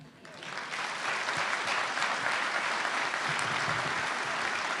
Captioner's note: audience clapping